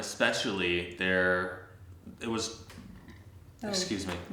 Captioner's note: burps